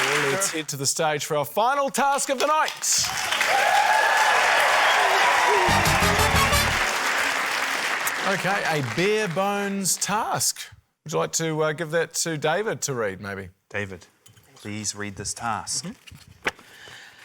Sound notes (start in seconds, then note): 4.7 cheering, applause